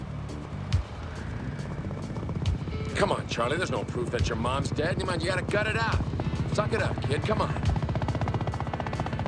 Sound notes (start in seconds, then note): 2.0 helicopter